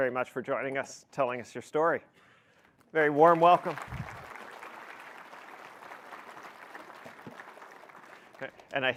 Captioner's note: applause